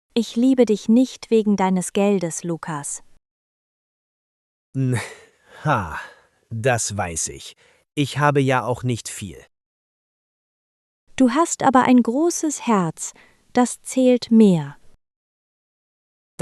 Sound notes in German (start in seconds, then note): 4.8 laughs